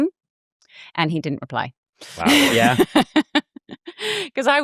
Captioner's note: laughs